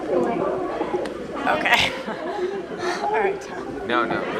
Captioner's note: laughing